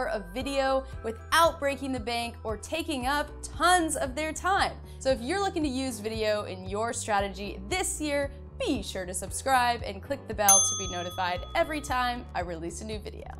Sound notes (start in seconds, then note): 10.5 bell rings